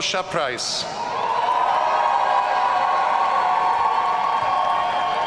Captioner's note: audience cheering